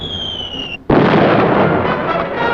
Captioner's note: explosion